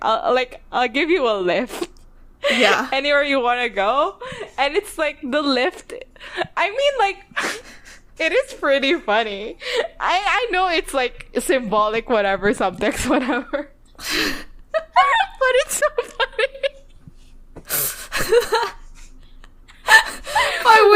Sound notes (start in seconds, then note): 7.5 laughs; 14.7 both laugh